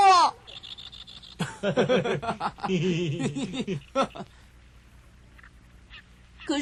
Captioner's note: laughs